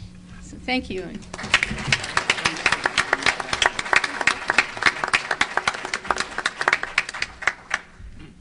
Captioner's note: applause